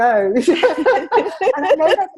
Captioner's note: both laugh